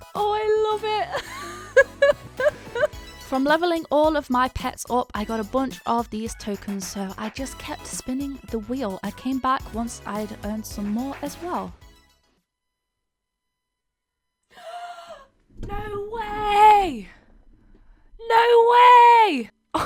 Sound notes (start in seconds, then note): 1.1 laughing; 14.5 gasps